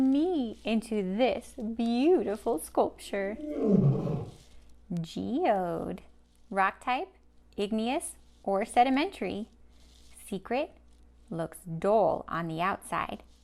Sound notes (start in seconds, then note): 3.4 lion roars